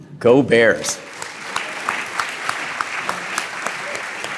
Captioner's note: applause